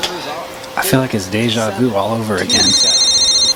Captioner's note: phone ringing; Mr. X VOICEOVER; phone ringing